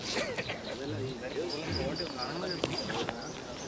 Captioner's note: indistinct chatter